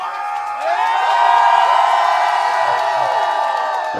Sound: crowd cheers

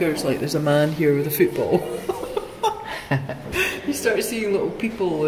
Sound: laughs

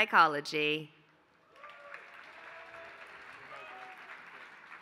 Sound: applause

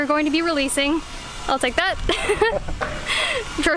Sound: laughter

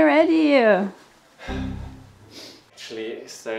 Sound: sighing

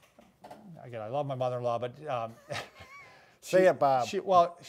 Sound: laughs

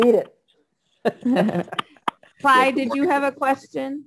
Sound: laughing

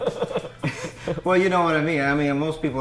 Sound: laughing; giggling

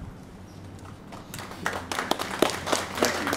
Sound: applause

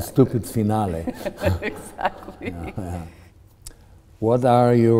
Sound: laughing

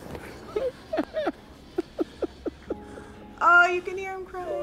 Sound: dad crying

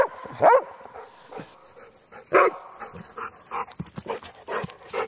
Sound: dogs bark and pant

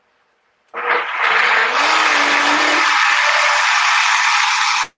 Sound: blender whirring

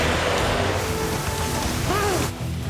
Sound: gasping

